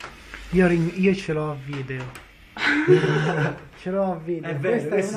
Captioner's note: laughs